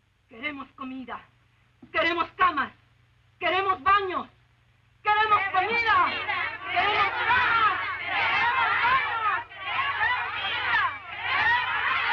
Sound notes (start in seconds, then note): 0.3 Esperanza speaking Spanish; 5.4 women speaking Spanish